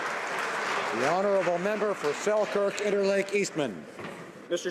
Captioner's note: applause